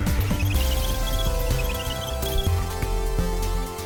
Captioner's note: squeaking sounds; upbeat electronic music